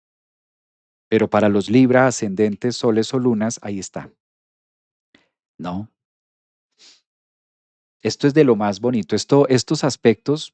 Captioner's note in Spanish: resoplido